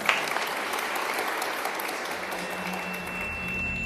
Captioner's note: applause